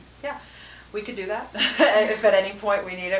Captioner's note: laughs